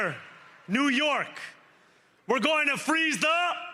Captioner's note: cheering; cheering